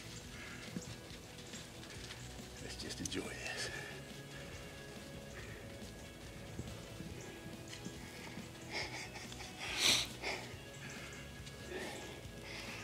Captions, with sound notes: - Let's just enjoy this. (subdued music) (laughing)